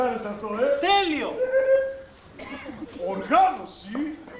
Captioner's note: γέλιο